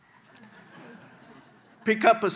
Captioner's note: audience chuckles